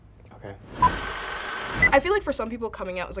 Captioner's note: film projector whirring